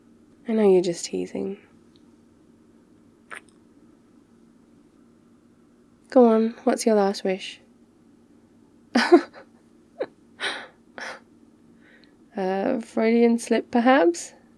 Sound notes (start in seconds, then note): 3.3 kiss; 9.0 laughs in 3rd wish